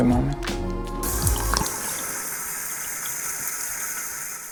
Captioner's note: water running